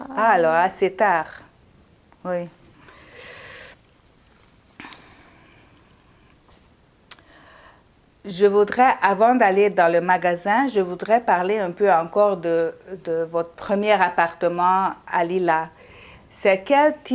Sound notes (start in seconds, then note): 2.5 pauses 6 seconds